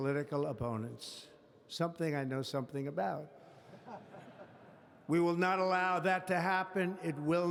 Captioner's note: laughter